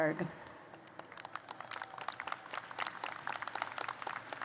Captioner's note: applause